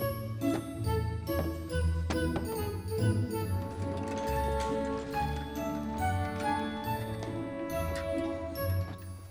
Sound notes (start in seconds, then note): 3.7 rolling cart